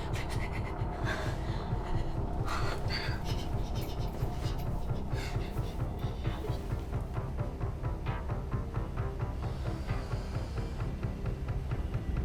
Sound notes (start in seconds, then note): 0.1 Belle crying; 2.4 Belle shushing; 3.3 tense music; 9.3 spider hissing